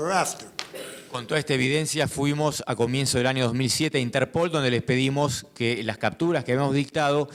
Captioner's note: speaking in foreign language